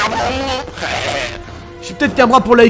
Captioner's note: laugh in bad guy